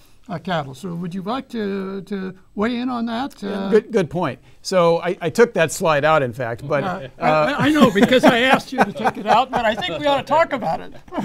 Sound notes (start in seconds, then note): 6.8 laughs; 11.0 all laughing